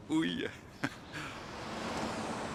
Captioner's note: chuckling